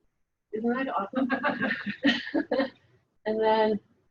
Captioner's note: laughs